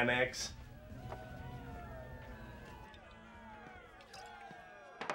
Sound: crowd cheering

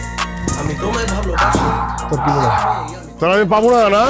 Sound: screaming

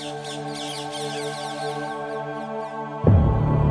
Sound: birds chirping

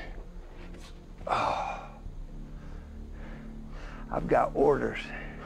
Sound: grunts

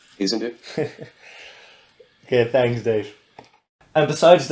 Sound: chuckles

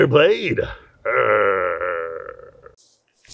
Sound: Magnar growls

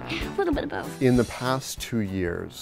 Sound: ^laughter^

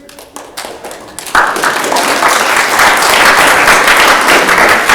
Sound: audience clapping

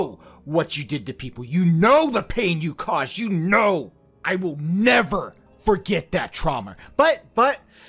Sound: sigh

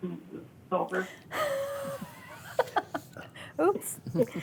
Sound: laughing

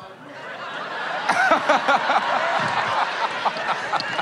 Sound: laughs

